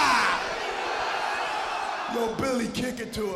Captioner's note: crowd chatter